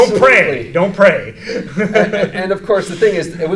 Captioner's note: laughing